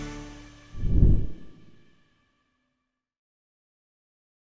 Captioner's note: logo swooshes